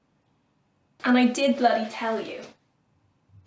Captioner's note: none